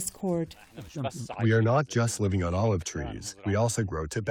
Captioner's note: through translator